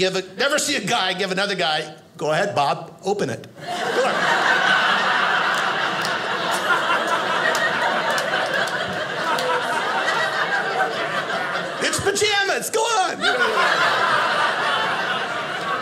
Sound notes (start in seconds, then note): 3.6 audience laughing